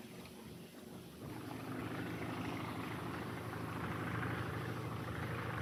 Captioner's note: plane engine rumbling